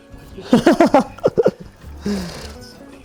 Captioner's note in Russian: смех